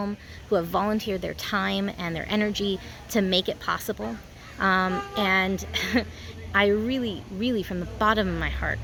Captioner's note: laughs